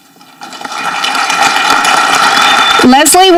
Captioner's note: audience clapping